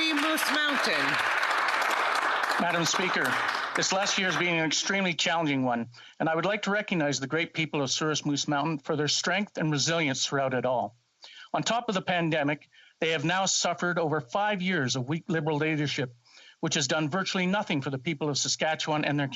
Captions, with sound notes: AS I WOULD SAY, GO TAMPA BAY, GO ANTHONY. [APPLAUSE] >>> MADAM SPEAKER THIS LAST YEAR BEING AN EXTREMELY CHALLENGING ONE I WOULD LIKE TO RECOGNIZE THE PEOPLE, FOR THEIR STRENGTH AND RESILIENCE THROUGH OUT IT ALL. THEY HAVE NOW SUFFERED FIVE